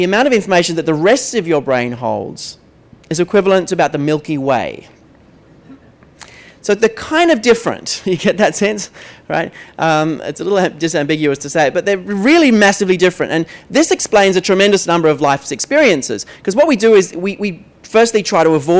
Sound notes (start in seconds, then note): 5.6 laughter